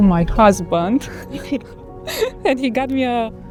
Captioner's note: both laughing